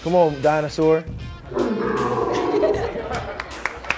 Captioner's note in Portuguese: rugido; aplausos